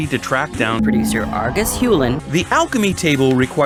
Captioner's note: pitched up